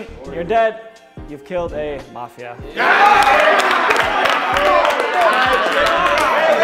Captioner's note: team cheers